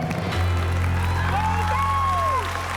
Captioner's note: cheering and applause